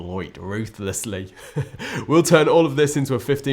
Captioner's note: chuckles